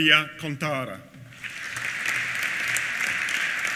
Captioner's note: applause